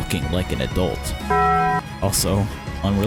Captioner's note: Taco Bell Ding